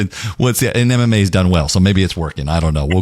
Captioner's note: laugh